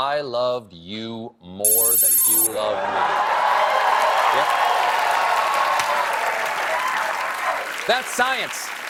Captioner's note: cheers and applause